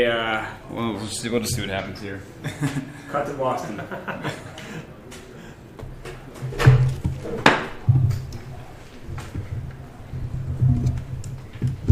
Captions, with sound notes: well, let's just see what happens here. Cut to Boston. (thumping noises)